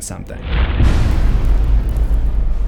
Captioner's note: impact